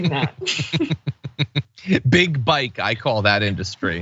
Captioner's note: laugh